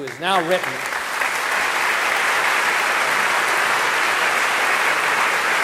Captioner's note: audience applauding